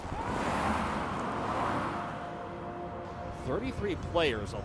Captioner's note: traffic whooshes